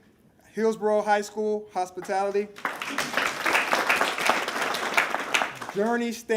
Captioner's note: applause